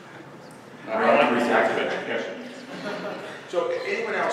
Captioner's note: laugh